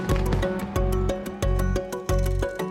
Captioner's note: bell tolls